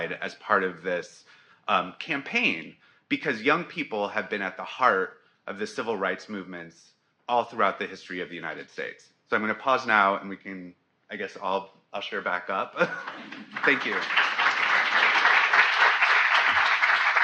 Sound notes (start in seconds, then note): 12.7 laughs; 12.9 audience applauding